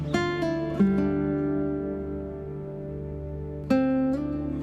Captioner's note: none